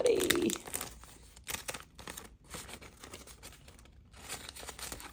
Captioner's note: money and plastic crackling